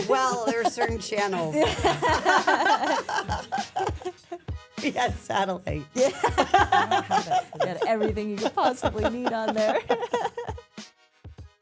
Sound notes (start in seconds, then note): 2.0 all laughs; 6.0 laughs